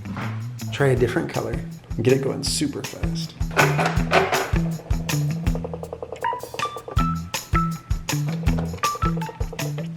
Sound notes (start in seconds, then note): 3.5 item clattering